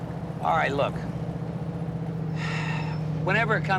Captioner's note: sighs